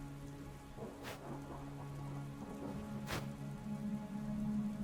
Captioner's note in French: le tonnerre gronde